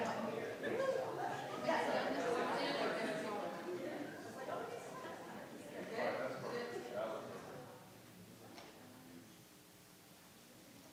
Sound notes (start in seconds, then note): 0.0 crowd chattering